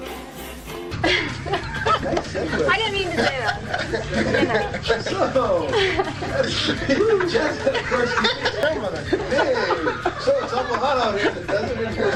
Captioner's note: laughter